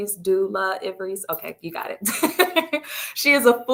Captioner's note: chuckles